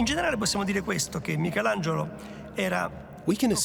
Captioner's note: in Italian